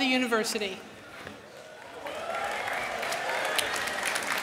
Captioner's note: applause